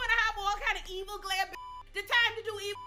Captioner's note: beep